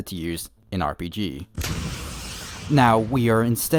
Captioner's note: explosion in the background